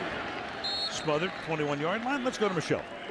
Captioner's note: whistle blows